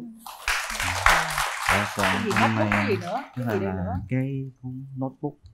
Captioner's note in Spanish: Aplaudir